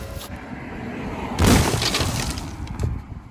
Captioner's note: wood splintering